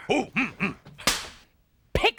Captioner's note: smacks board